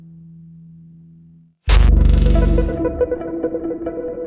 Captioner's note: harsh static noise